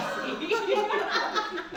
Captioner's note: laughter